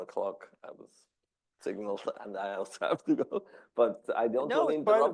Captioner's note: laughs